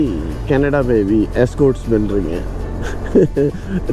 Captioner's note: laughs